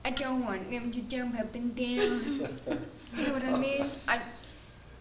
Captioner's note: laughing